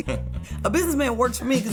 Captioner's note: laughing